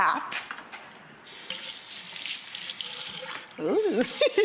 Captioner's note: water running; laughs